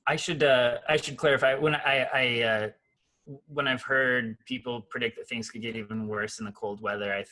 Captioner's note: none